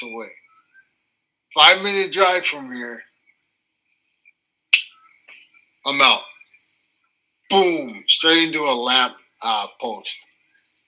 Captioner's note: snaps